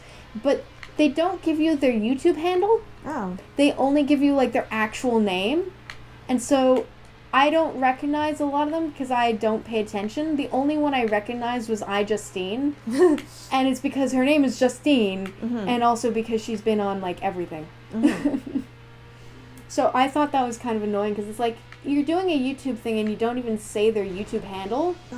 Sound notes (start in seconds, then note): 17.9 laughter